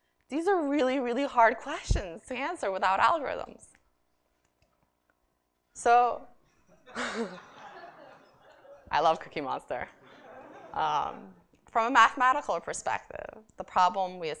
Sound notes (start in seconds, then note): 6.8 laughter